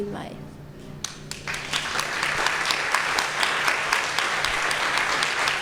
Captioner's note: audience applause